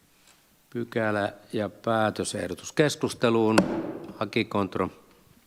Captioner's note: Nuijan kopautus